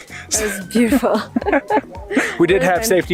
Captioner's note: laughing